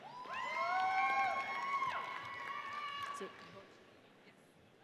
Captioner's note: audience cheers